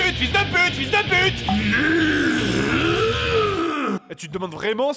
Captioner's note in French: grognement